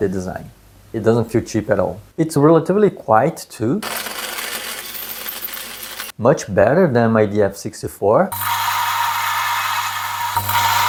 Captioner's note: grinding noise